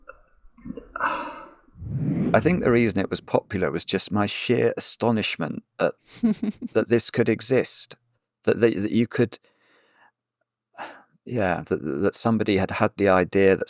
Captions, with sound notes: (air whooshing) I think the reason it was popular was just my sheer astonishment that this could exist. That you could... Yeah, that somebody had had the idea,